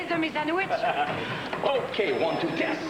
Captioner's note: Rires